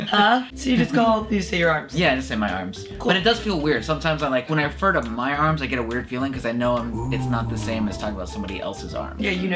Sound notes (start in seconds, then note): 6.9 voiceover Sound Effect